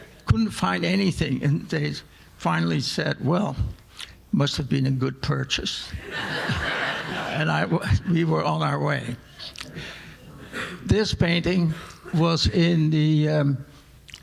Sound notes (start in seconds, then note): 6.0 audience laughing